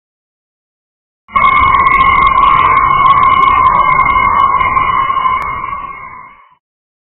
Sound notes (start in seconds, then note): 1.3 scream